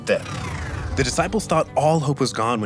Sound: effects whooshing

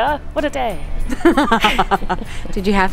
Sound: laughs

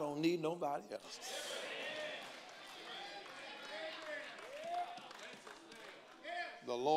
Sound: congregants call out and applaud

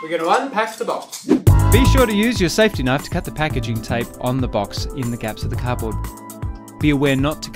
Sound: whoosh

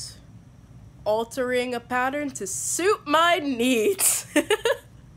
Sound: laughter

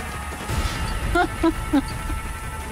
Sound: laughs

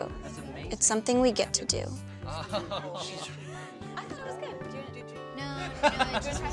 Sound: soft music; Daniel laughs

